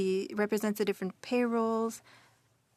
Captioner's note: speaking French